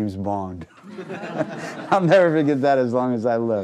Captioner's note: laughing